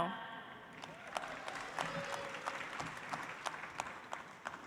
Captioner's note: audience applauds